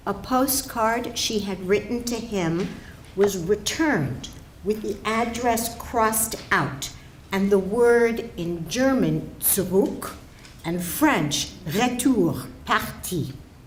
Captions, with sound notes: A postcard she had written to him was returned with the address crossed out and the word in German, (German spoken), and French, (French spoken), return to sender.